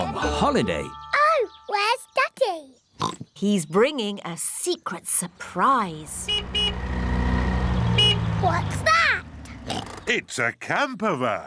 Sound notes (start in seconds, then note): 3.0 oinks; 6.1 horn honks; 9.6 oinks